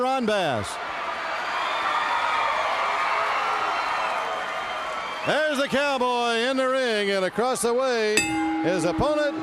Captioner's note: crowd cheering